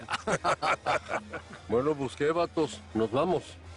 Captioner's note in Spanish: Risas